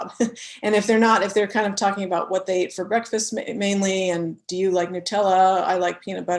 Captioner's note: laugh